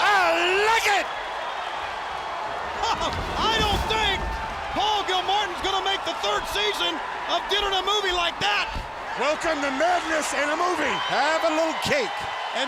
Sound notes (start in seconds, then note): 1.3 table thudding; 3.0 laughs; 8.7 cake thudding